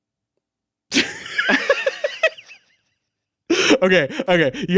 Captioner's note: laughing